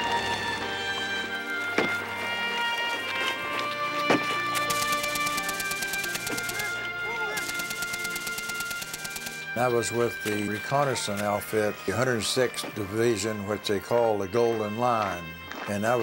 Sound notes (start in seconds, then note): 1.6 machine gun firing; 6.3 various shouts